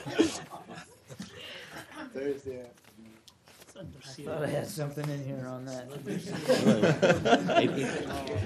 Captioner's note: laughter